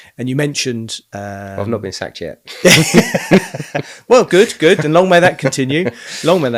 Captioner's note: laughing